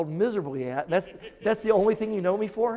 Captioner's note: audience chuckling